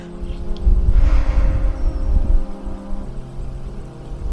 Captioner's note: sighs